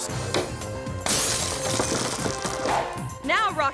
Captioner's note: glass shatters